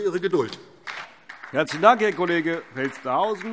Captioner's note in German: Beifall DIE LINKE